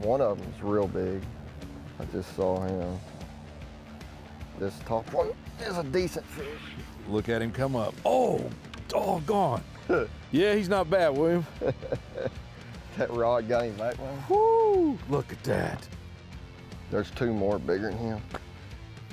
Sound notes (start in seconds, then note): 11.4 chuckles; 13.1 laughs